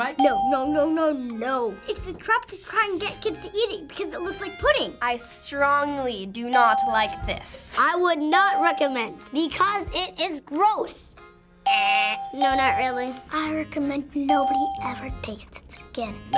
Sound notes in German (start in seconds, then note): 11.6 imitiert Buzzer